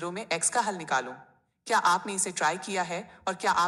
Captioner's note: speaking hindi